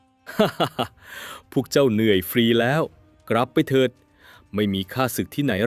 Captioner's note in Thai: เสียงหัวเราะ